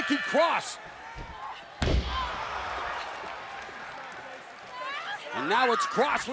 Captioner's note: crowd chatter